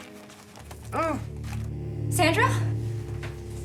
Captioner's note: ominous music; Sandra groans